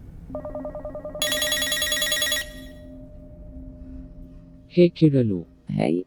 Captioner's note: phone ringing